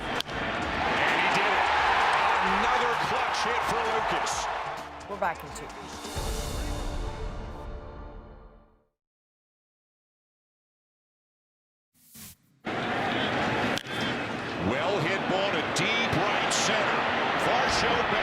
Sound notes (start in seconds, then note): 2.7 cheers and Applause